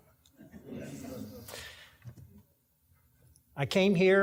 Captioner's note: audience laughing